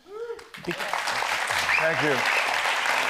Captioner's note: audience applauds